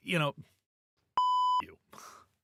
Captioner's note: beep